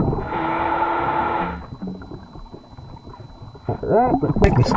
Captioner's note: regulator hissing